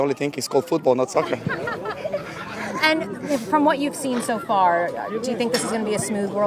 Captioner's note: laughs